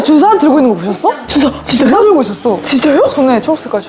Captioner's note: shocked